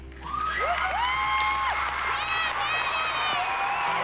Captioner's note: cheering and applause